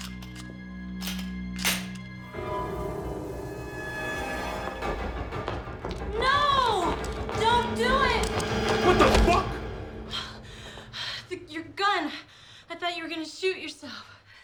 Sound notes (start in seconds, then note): 10.0 breathing heavily